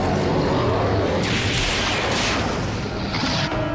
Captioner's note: explosion